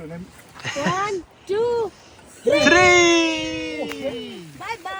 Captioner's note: encouraging voice